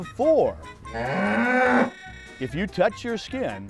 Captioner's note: sounds of cows